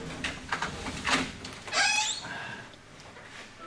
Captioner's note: door opens, squeaks